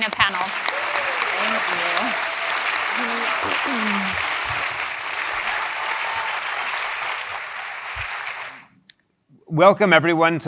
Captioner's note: applause